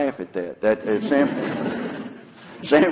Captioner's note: laughter